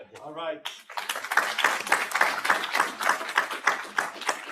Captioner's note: audience applauds